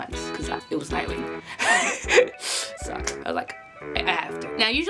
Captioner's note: laughs